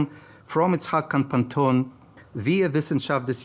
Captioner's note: speaking in foreign language